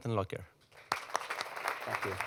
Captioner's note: applause